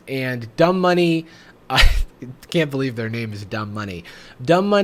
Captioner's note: laughs